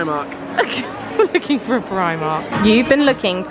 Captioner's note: laughing